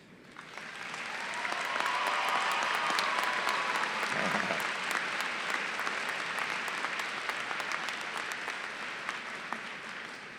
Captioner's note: applause